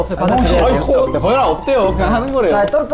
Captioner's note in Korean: 찹 찹 찹 찹